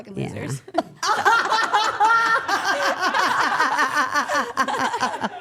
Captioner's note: all laughing